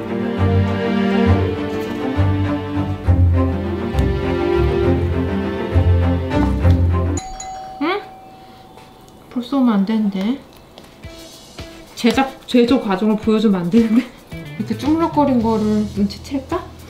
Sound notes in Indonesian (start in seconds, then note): 7.1 suara bel rumah; 13.8 tertawa